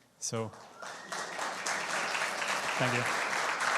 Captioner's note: audience applauding